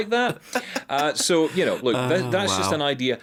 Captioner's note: laughing